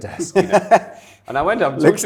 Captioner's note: laughing